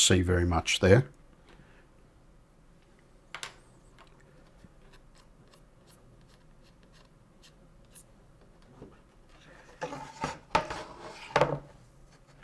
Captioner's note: silence